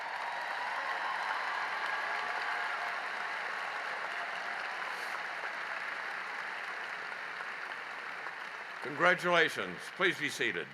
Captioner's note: cheering and applause